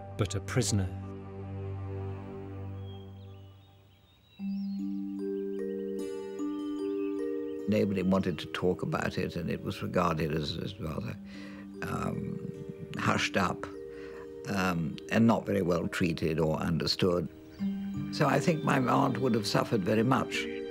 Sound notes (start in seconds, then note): 0.0 dramatic music; 2.8 birds chirping; 4.4 gentle music